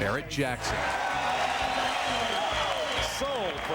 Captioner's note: cheers and applause